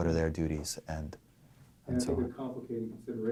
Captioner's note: voiceover